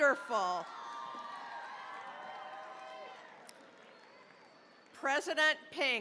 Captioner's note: cheering, applause